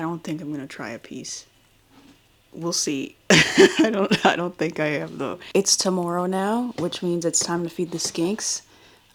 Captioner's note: laughs